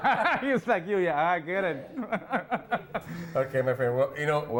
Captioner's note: laughs